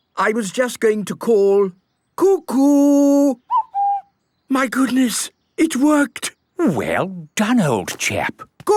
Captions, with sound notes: I was just going to call, "Cuckoo!" - (distant cuckoo) - My goodness! It worked! - Well done, old chap!